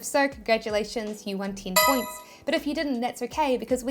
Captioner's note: bell chiming